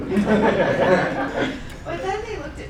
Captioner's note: laughing